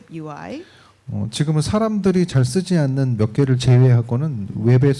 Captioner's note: speaking korean